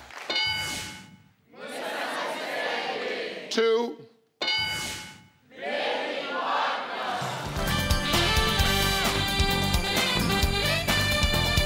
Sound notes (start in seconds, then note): 0.3 electronic dinging; 4.4 electronic dinging; 7.5 upbeat jazzy instrumental music